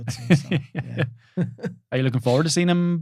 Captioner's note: laughing